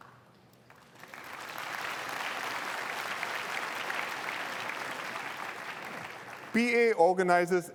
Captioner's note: applause